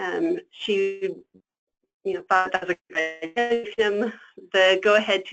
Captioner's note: static